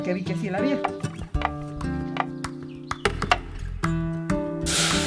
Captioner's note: sizzling